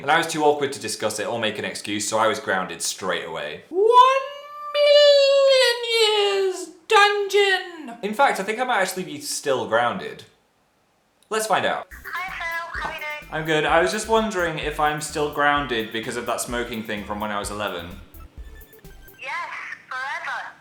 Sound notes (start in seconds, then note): 12.0 phil's mum on phone